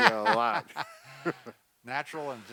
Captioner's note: laughs